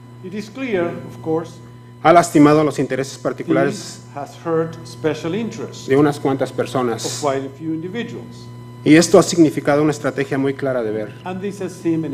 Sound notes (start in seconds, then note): 7.5 speaking foreign language